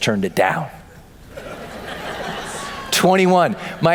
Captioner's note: laughter